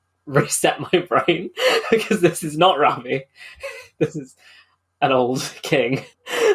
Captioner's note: laughing